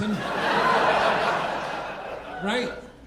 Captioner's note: audience laughing